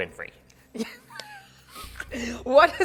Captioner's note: laughing